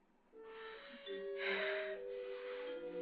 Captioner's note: suspenseful music; breathing heavily